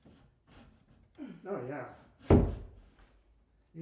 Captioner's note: grunts